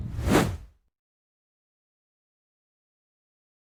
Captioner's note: air whooshing